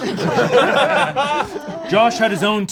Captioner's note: group laughs